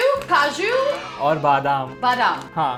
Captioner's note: speaking in Hindi